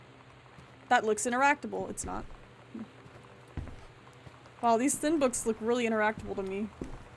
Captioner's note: none